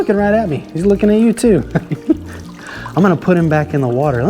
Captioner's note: laughs